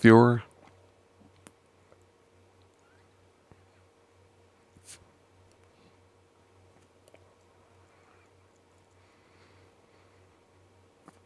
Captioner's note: silence